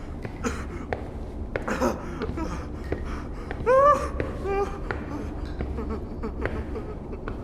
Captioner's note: crying intensifies